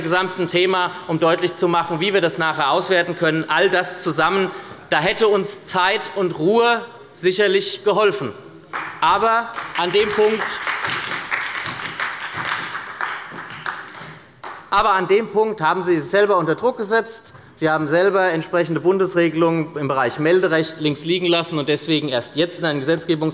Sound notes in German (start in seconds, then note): 8.7 Beifall bei der SPD